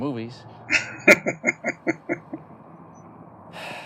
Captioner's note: laughing